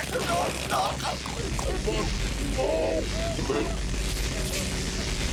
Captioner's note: distorted screaming